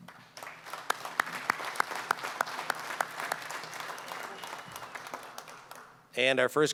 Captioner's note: applause